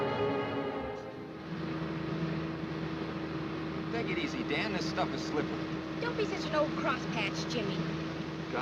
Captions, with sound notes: (engine roaring) - Take it easy, Dan. This stuff is slippery. - Don't be such an old crosspatch, Jimmy.